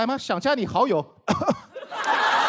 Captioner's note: cough